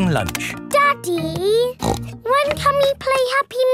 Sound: snorts

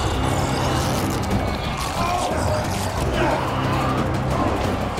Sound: zombies grumbling

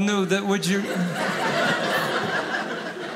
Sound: audience laughing

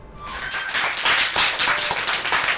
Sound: applause

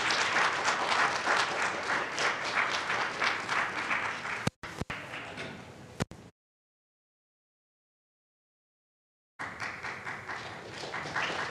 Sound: audience applauds

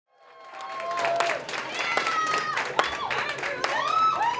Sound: applause

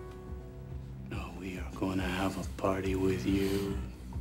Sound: groaning

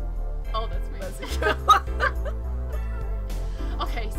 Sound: laughs

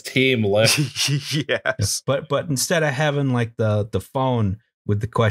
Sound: laughter

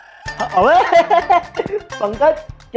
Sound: laughing

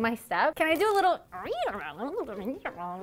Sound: babbling

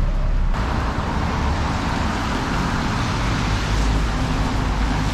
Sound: traffic sounds

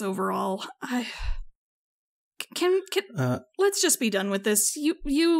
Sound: sigh

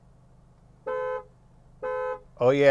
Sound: horn honking

